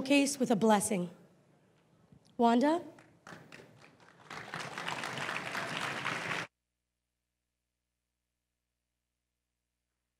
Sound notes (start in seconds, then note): 5.2 crowd applauding